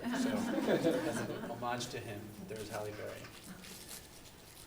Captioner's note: laughter